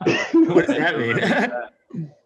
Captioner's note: laughter